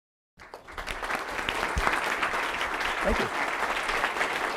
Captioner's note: applause